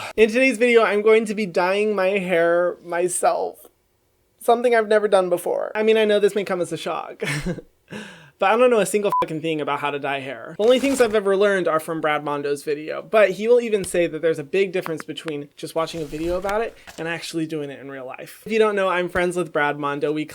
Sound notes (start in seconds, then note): 7.2 chuckles; 9.1 beep